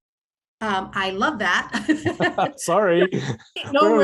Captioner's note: laughs